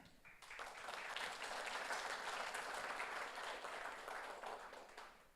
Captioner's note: audience applauds